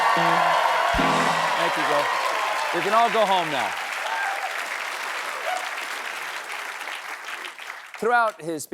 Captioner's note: cheers and applause